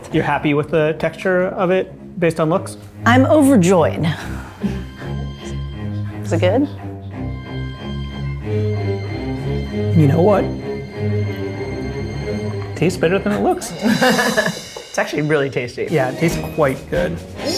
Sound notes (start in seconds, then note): 13.4 laughs; 14.0 dramatic music